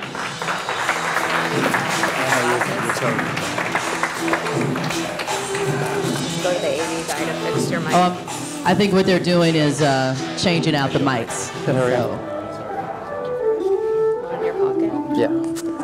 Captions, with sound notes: (upbeat instrumental music) (audience applauding) Oh, I think what they're doing is changing out the mics. (upbeat instrumental music)